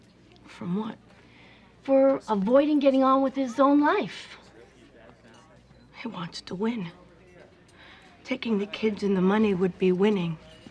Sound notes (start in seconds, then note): none